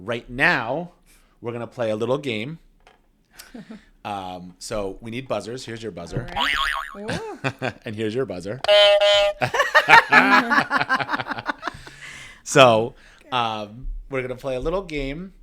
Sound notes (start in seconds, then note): 6.3 boing sound plays; 8.6 honking sound plays